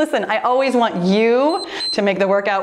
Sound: timer beeps

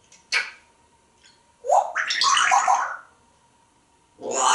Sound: smooch; water sound

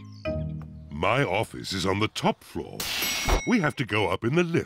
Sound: elevator bell dings

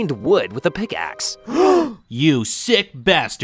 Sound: group gasps

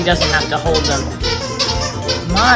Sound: toy SQUEAKING

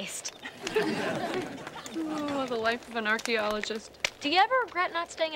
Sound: <i>chuckling

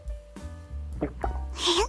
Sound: gulp

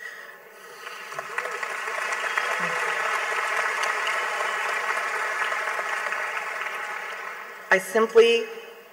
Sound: clapping

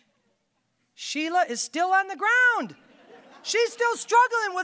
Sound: audience laughing

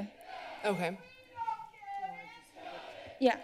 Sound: protester shouting

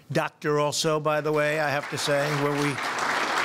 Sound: applause

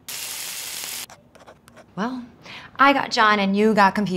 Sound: grease sizzling; pen scribbling

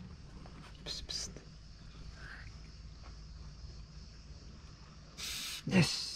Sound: whispers hissing sound

